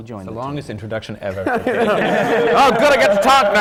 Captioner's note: laughter